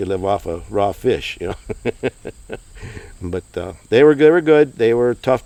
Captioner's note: laughing